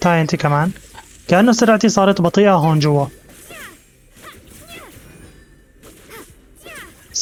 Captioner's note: yelps